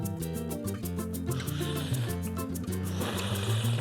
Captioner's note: slurping